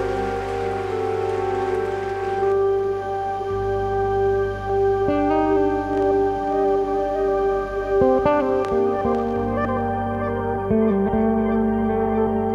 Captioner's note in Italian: Applauso